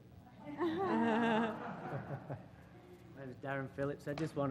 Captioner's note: laugh